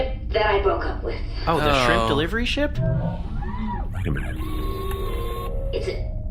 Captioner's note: distant sound of Two snapping his fingers